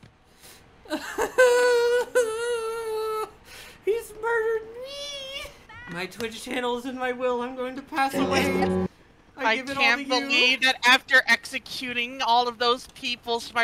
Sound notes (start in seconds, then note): 0.2 further wailing; 8.1 death knell